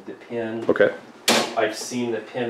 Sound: seat clanks

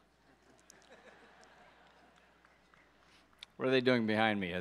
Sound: audience laughs

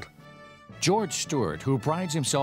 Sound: voiceover

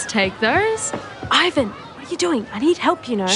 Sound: whispers

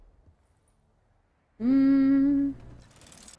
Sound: humming

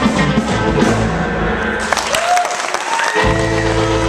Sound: applause and cheering

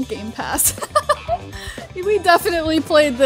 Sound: laughs

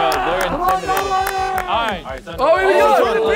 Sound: clapping; horn blowing

